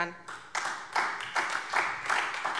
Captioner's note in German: Beifall SPD und vereinzelt DIE LINKE